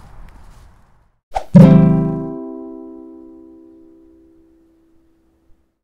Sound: arrow being shot + ukulele strum

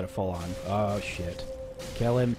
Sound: distant howling

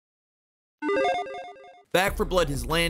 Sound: logo beeps

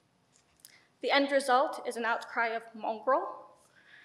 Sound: speaks foreign language

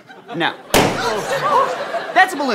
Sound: pop; gasps

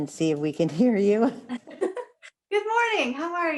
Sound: chuckles

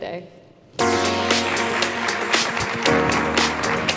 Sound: applause

